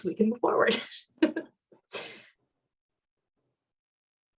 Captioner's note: laughter